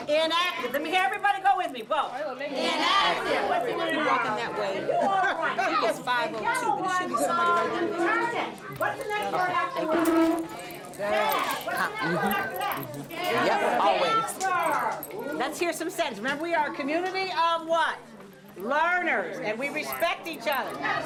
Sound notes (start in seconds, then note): 3.6 all chattering